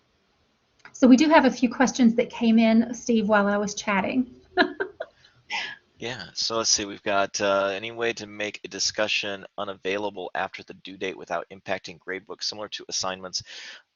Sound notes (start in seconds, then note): 4.6 laughter